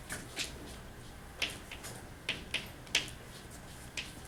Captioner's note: chalk clicking on board